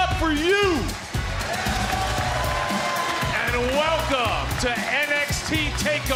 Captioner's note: applause